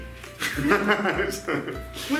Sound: laughing

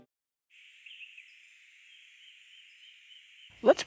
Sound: birds chirping

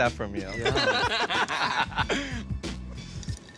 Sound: both laughing

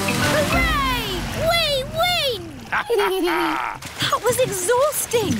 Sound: both laugh

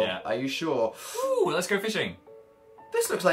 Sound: sucks air through teeth

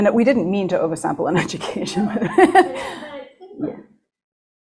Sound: laughs

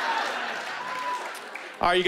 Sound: cheering

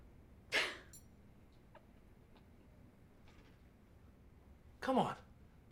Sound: laughing

